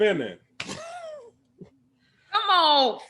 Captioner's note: Bobo laughs